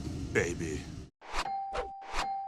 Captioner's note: speaking in Spanish; dinging; whooshing